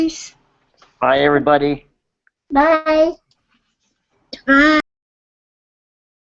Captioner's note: group says bye